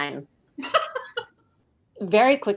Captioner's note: laughs